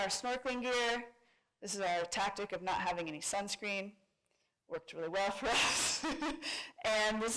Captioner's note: laughs